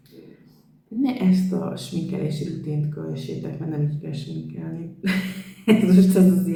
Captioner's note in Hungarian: nevetés